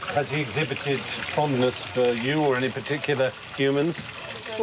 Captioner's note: none